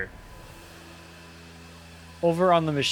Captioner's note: machine rumbling